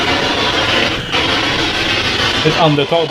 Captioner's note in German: Atmen